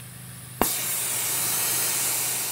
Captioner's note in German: Zischen